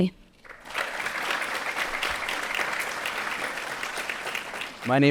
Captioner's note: audience applauding